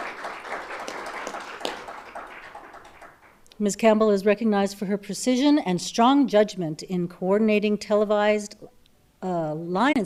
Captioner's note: applause